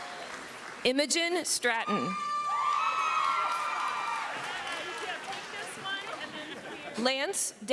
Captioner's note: cheering